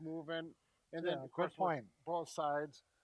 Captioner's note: mutters